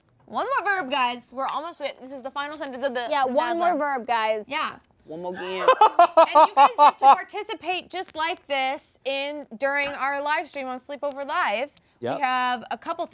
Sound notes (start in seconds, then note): 5.4 laughing